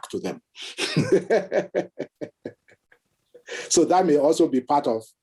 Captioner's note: laughs